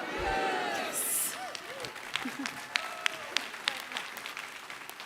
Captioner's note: applause